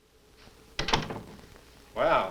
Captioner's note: door bangs